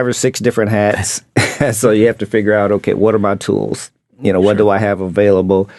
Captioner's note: chuckles